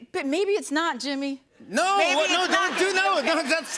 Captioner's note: laughter